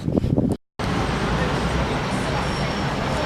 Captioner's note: traffic/pub noise